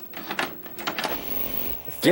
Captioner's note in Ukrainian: Високочастотний шум ЕПТ-телевізора